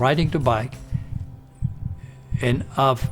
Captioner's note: heartbeat